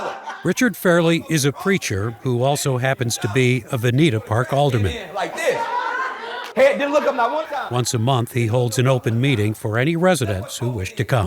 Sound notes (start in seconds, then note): 5.1 speaks faintly